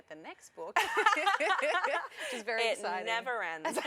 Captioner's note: laughter